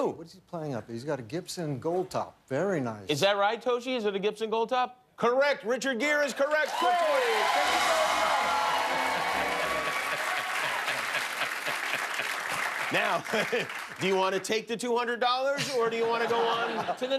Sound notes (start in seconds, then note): 6.4 cheers and applause